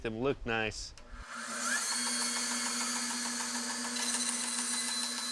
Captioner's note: saw buzzing